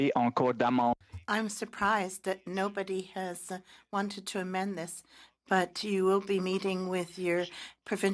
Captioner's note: speaking French